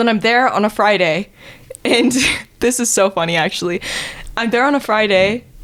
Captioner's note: chuckles